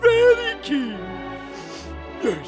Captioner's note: sniff sniff